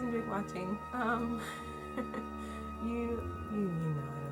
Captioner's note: laughs